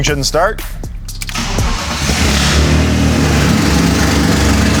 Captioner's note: engine revving